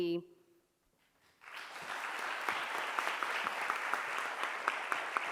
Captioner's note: crowd applauds